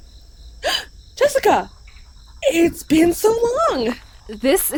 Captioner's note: gasp